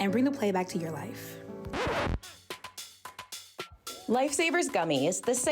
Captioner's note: needle scratch